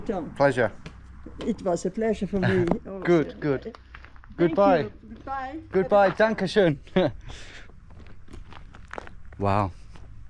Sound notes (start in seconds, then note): 6.5 speaks German; 6.8 chuckles